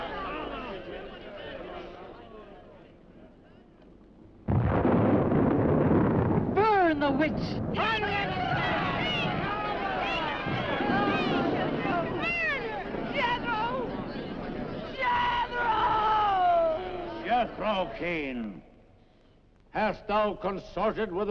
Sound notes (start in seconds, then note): 4.8 thunder rumbling; 8.0 crowd yelling